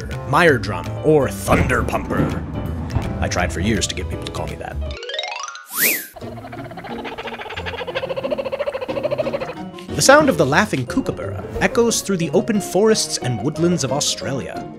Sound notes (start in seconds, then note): 1.4 thunder; 5.6 chime, whistle; 6.1 rapid chittering